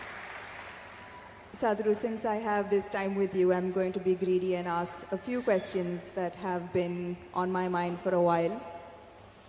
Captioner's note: applause